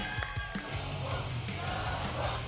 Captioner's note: applause and cheering; audience chanting "double!"